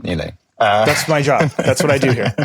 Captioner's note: laughs